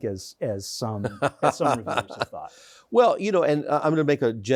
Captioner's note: chuckles